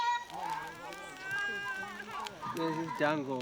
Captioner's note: fire crackling; child cooing